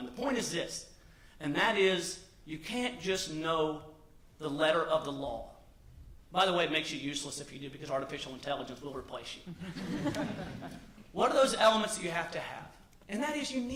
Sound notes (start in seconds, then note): 9.4 laughter